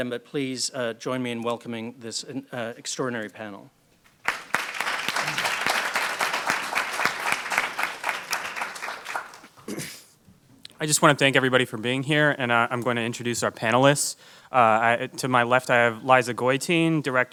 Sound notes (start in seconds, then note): 4.1 audience applauds